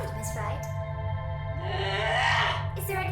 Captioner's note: guttural roar